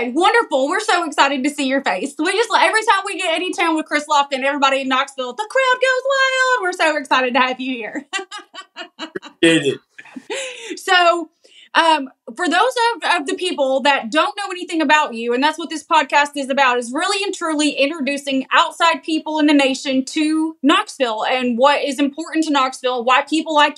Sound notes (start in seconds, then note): 7.9 laugh